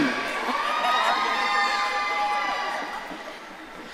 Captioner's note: audience cheering